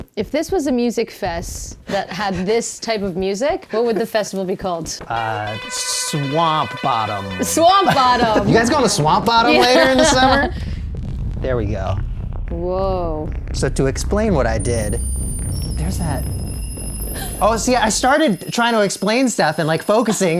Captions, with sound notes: If this was a music fest that had this type of music, what would the festival be called? - Swamp Bottom. - Swamp Bottom. - You guys go to Swamp Bottom later in the summer? There we go. - Whoa. - So to explain what I did. (high pitch ringing) There's that. (high pitch ringing) Oh see, I started trying to explain stuff and like focusing.